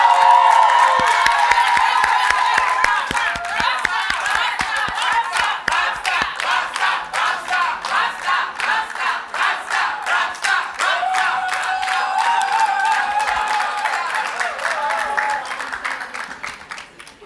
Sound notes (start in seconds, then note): 0.2 cheers and Applause; 3.8 chanting